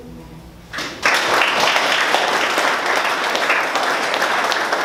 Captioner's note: crowd clapping